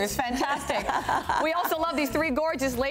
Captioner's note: laughter